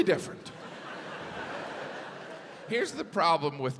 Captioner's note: audience laughs